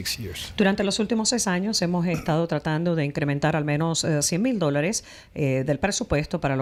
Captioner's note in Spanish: Habla en ingl\s